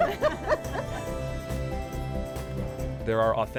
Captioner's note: all laughing